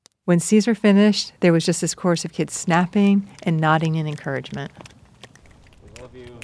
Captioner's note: snapping in the background